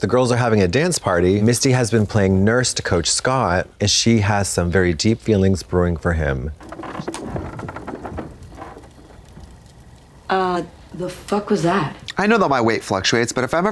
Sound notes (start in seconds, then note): 6.3 floor squeaking